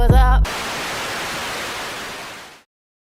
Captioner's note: channel static